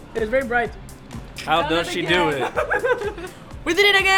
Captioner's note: laughing